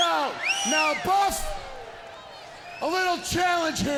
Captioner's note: crowd cheering